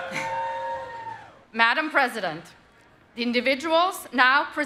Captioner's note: applause